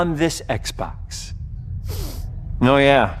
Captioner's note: sniffs